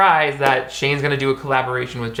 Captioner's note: none